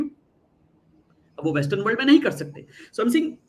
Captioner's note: non-english speech